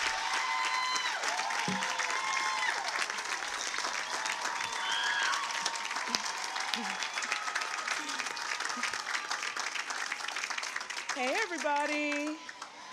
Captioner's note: cheers and applause